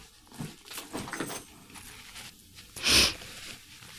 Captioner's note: bag thudding